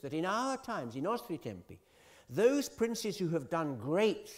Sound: italian

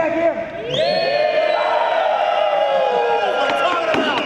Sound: cheering

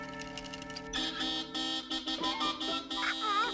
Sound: horn honking

